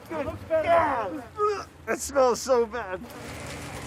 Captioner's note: retching